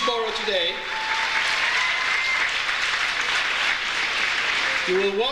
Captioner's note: audience cheers; audience applauds